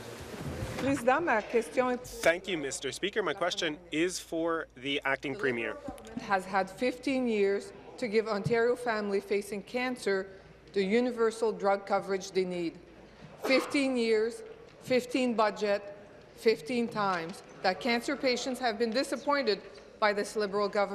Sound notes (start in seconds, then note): 4.2 speaking in French